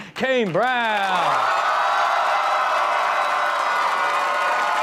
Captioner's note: audience cheering